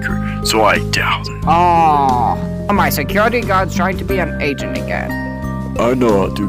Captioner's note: groans loudly